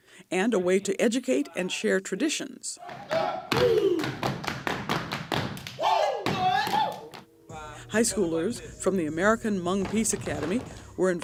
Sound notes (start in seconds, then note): 2.8 energetic vocalizations